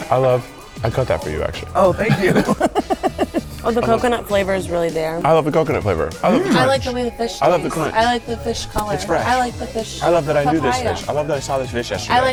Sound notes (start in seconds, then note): 3.0 laughs